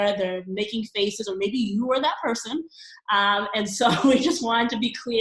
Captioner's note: laughing